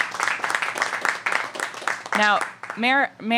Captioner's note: applause